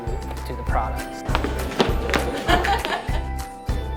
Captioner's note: stomping, clapping, laughing